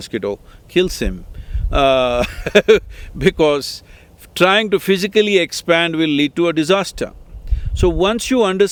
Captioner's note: laughs